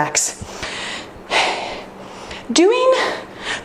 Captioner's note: exhales